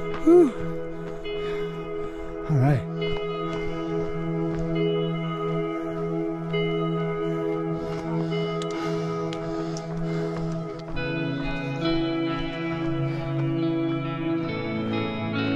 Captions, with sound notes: Woo! All right. (runners chattering) (footsteps crunching)